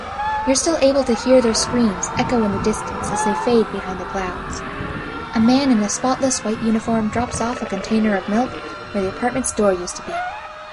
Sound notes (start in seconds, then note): 2.8 man screaming-- screams grow faint as he's carried off in the distance; 8.7 screaming, Sirens, Growling, Storms Continue